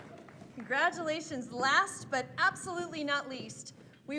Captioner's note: applause